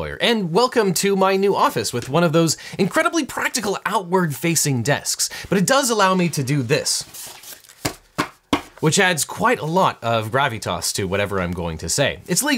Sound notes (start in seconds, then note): 7.2 papers thump